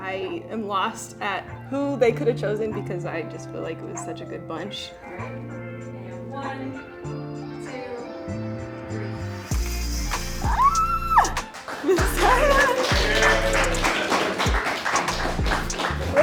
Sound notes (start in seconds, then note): 13.3 clapping